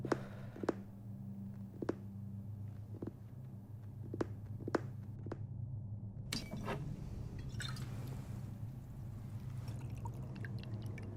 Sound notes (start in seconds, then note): none